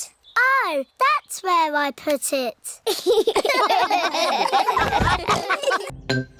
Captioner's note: all laugh